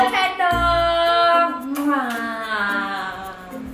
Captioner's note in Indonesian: kiss